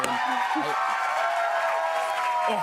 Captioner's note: cheers and applause